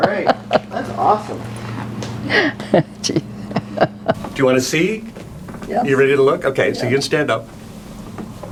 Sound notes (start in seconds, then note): 2.0 laughing